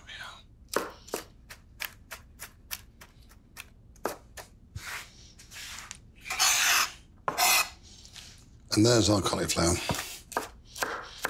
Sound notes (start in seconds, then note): 0.7 knife chopping; 6.2 knife scraping